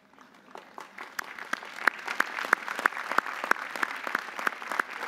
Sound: audience applauding

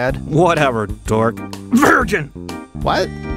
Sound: coughs the word

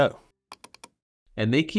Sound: mouse clicks

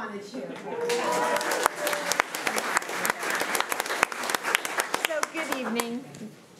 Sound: crowd cheering and clapping

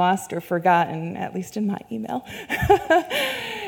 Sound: laughs

